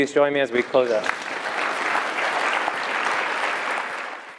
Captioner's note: applause